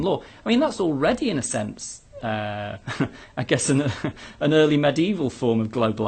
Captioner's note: laugh